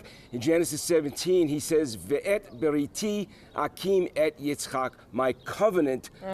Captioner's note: speaking hebrew